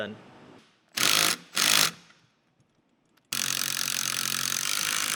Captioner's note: torque wrench whirling